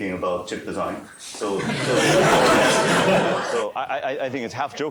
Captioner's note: laughter